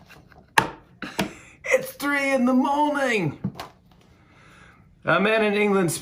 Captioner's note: laughing; English accent